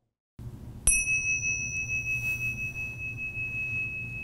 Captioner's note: chime rings